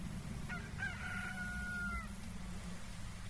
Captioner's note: rooster crowing; insects trilling